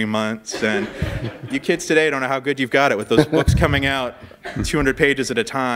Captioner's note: laugher